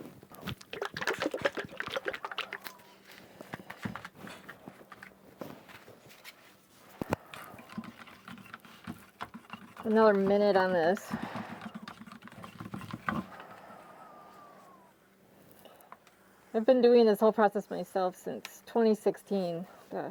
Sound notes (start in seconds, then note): 0.3 liquid sloshing